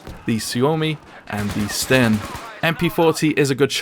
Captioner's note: gun firing